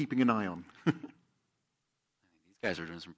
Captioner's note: laughs